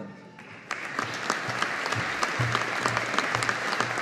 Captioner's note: audience applauding